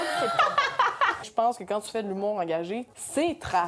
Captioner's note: laughing